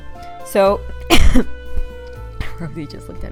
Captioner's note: cough